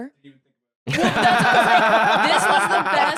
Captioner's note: all laughing